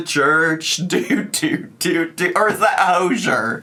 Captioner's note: laughs